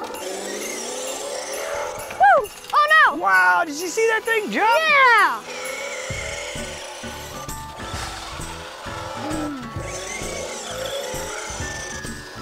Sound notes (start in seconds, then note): 0.3 car driving; 5.7 car driving, gentle music